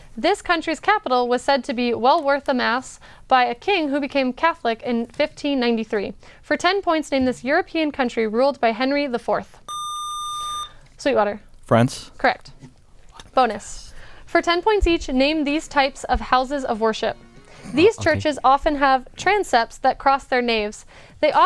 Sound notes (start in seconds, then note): 9.7 buzzer